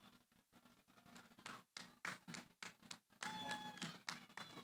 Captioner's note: applause